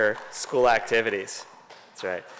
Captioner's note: applause